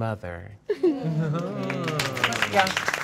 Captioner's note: all applauding